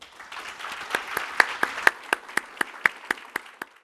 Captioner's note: applause